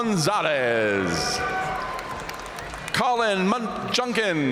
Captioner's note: audience cheering and applauding